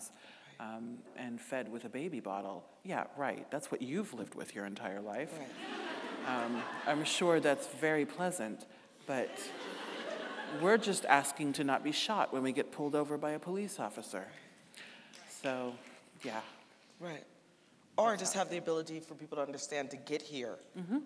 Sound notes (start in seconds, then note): 5.5 audience laughing; 9.2 audience laughing